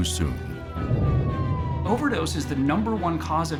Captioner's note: alarm blaring